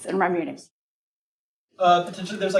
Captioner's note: muted